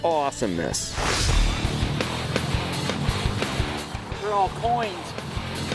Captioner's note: heavy metal instrumental; swooshing